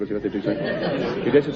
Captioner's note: laughs